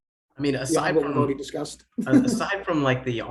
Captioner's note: laughs